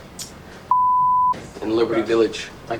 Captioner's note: beep